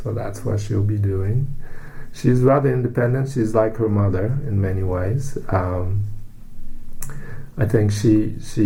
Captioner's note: takes breath